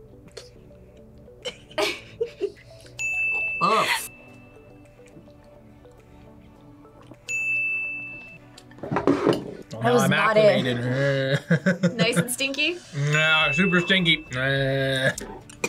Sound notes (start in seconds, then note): 1.4 laughs; 3.0 bell rings; 7.2 bell rings; 10.5 laughs